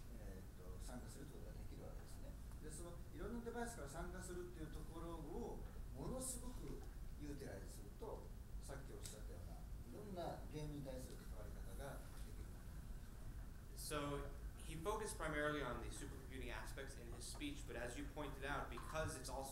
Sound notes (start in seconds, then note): none